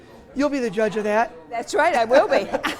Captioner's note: laughs